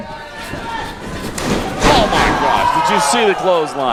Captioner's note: loud thud